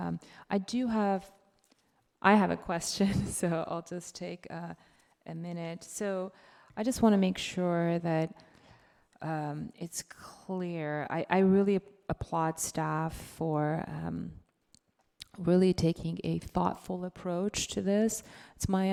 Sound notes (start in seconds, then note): 3.5 chuckles